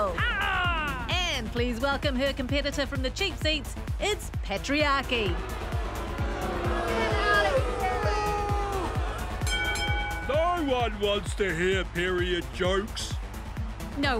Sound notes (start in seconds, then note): 5.2 audience boos; 9.4 bell rings